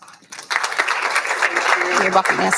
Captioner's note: applauding